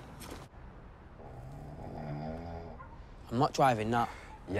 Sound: snoring

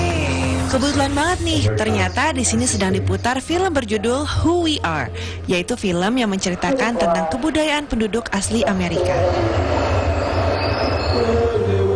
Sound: non-english speech

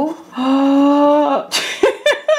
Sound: gasps; laughs

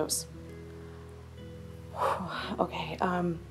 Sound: exhales

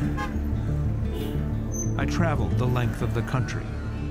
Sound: car horn honking

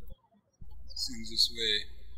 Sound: birds chirping

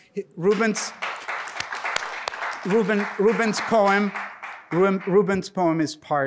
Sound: applause

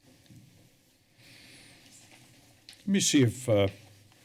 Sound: rustling sound; breaths deeply

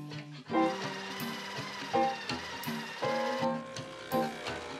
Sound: machine rumbles softly

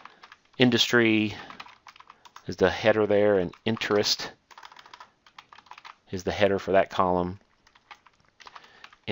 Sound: typing

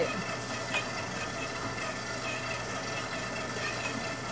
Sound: machine whirring

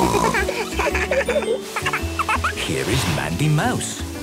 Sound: snorting; giggling; laughter

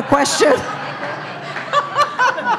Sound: laughter

